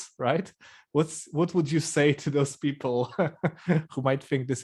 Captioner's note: laughs